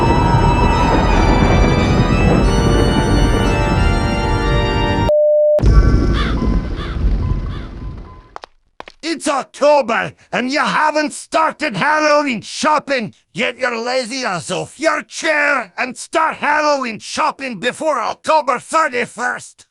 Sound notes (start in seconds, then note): 5.6 Windows 95 Plus! Mystery startup sound; 8.4 Windows 95 Plus! Mystery error sound